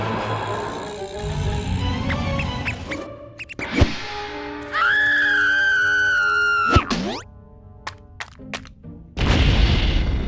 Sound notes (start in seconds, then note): 3.3 mouse squeaks; 4.6 screams